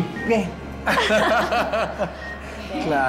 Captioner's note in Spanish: Risas